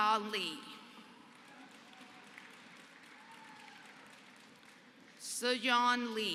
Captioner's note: applause